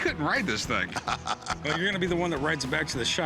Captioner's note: laughter